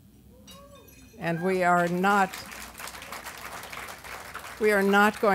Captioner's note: audience applause